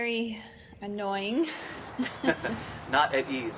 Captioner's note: both laughs